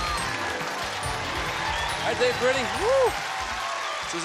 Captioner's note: applause